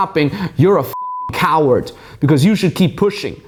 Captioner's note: beep